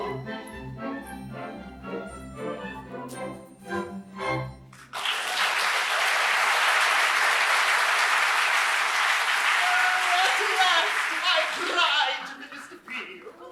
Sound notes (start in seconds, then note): 4.8 applause